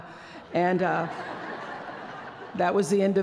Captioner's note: laughter